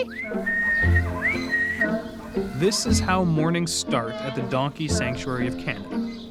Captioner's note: whistling